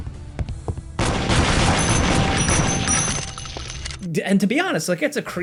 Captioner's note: guns firing